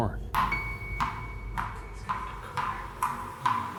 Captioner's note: bouncing